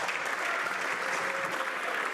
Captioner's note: some Applause